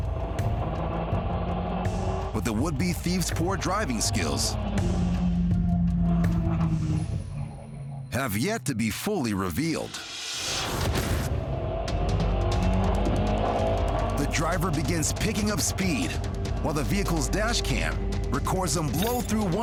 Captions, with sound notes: (car engine rumbles) But the would be thief's poor driving skills have yet to be fully revealed. (car engine revs) The driver begins picking up speed while the vehicle's dash cam records him blow through